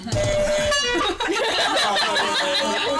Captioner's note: funny buzzer; laughter